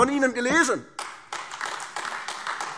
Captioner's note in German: Beifall AfD